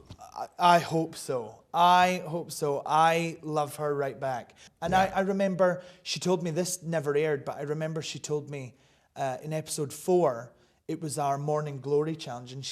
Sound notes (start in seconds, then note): none